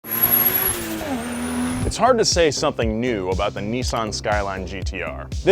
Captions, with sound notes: (car engine roaring) - It's hard to say something new about the Nissan Skyline GT-R.